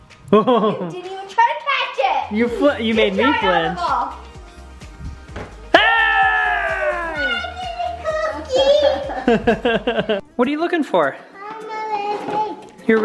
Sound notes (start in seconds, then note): 0.3 chuckles; 8.8 laugh